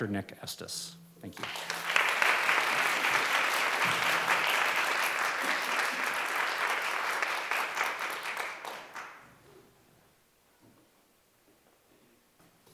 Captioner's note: applause